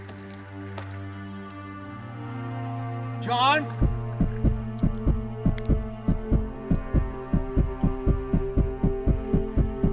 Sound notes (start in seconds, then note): 3.8 escalating heart beats; 4.3 reflective music